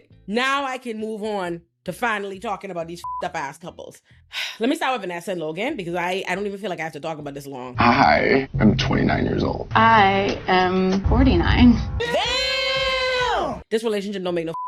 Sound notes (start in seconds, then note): 3.0 beep